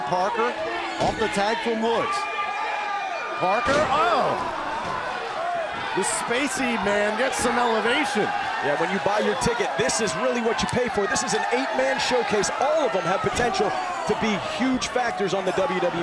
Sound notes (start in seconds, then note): 3.1 crowd cheering